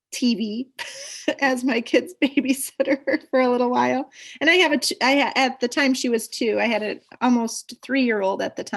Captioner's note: laughs